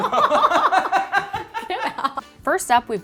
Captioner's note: laughing